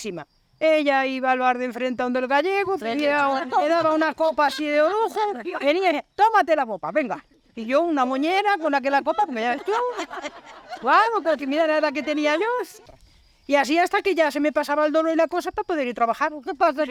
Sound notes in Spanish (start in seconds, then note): 8.5 risas